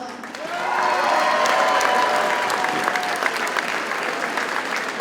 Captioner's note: audience cheers and applauds